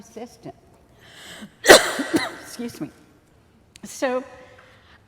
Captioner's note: coughs